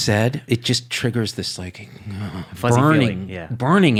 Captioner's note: groans